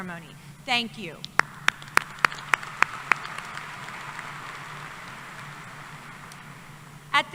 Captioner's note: applause